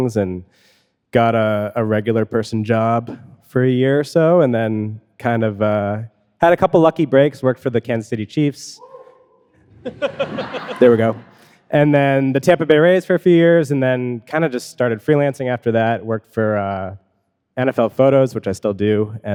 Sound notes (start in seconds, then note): 9.6 audience laughing